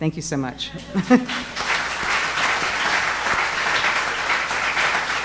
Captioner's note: audience applauding